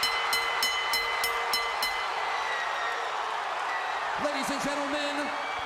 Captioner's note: bell ringing